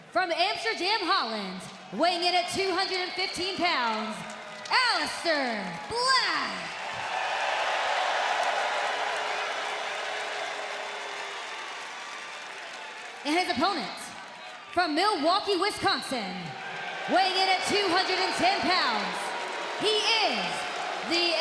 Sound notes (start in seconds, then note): 8.0 cheers and applause